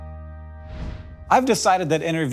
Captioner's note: gentle music; scene swooshing